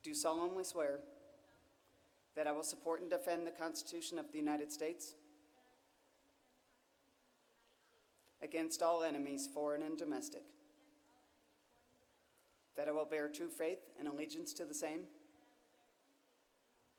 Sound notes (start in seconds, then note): none